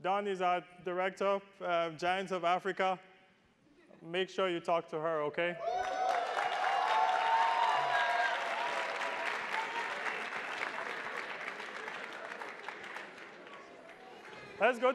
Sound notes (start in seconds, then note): 7.5 attendees applauding